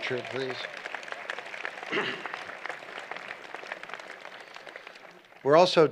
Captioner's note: applause